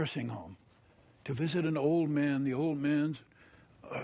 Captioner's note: groans